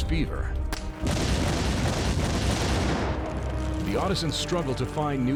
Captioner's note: explosion